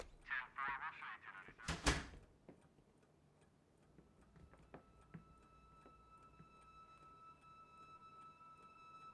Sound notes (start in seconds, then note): 1.6 door clacking shut; 5.2 ominous orchestral music